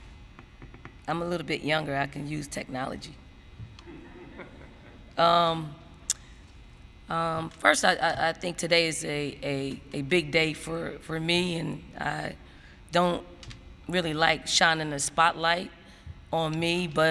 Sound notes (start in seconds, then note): 3.8 laughter